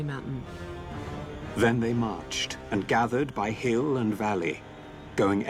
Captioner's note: narrator reading on-screen text